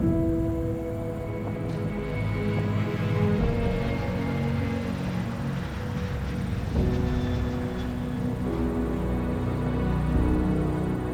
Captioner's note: jet engine whines